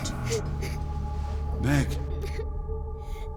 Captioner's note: Meg sobs